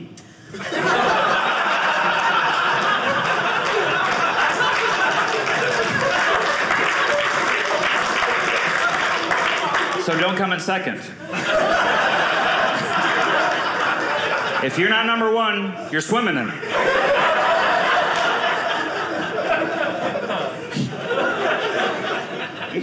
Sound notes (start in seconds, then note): 0.5 audience laughing; 4.8 audience clapping; 11.2 audience laughing; 16.3 audience laughing